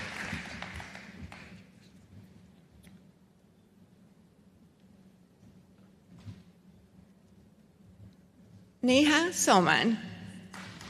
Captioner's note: applause; applause